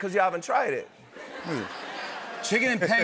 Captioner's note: laughter